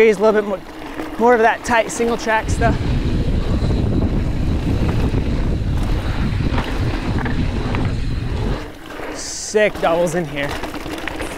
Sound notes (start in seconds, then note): 2.9 wind blows